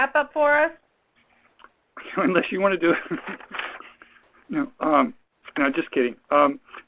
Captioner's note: chuckles